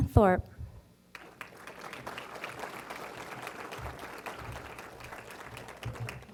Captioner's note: applause